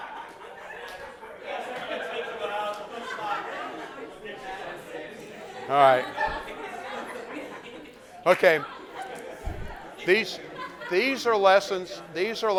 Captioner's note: laughter